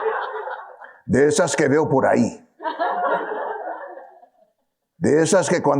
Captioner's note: audience laughing; speaking in foreign language